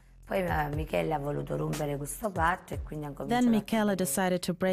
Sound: speaking in Italian

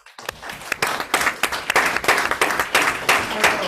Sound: group applauds

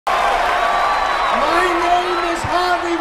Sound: crowd cheering

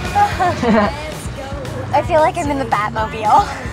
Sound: both laugh

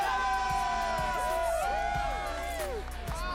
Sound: all cheer

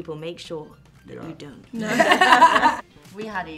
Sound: all laugh

